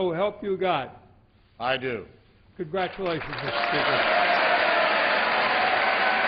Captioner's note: cheers and applause